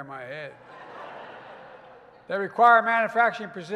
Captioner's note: laughter